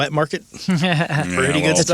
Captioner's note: laughing